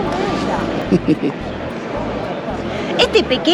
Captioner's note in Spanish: risas